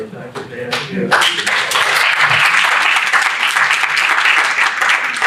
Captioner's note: audience clapping